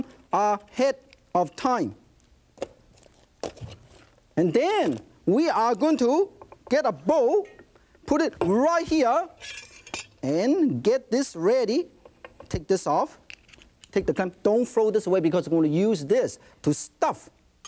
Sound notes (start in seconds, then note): none